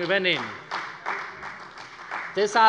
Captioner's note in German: Beifall bei der CDU und dem BÜNDNIS 90/DIE GRÜNEN